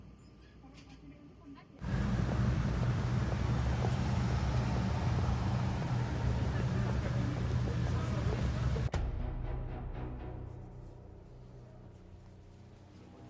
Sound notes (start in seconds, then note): 1.9 footsteps